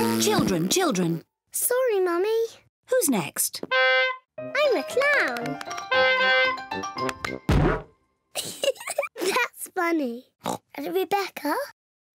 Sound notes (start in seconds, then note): 0.0 blows raspberry; 0.0 oinks; 3.7 horn honks; 5.8 horn honks; 7.5 thud; 8.3 giggles; 10.4 oinks